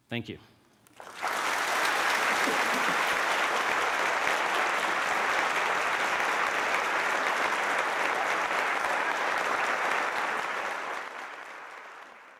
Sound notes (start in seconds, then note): 1.2 applause